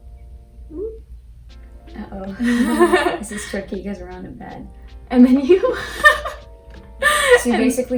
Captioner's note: laughs